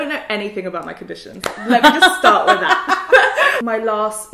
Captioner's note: laughs